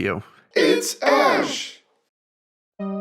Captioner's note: crowd